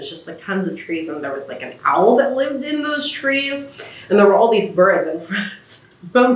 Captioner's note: laughs